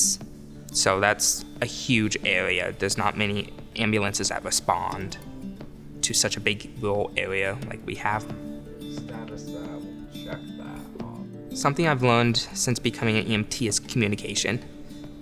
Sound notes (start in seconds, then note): 8.4 EMTs chatting